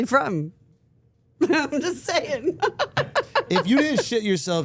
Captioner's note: laughs